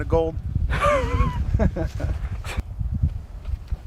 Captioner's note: all laughing